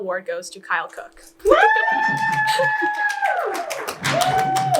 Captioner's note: audience cheers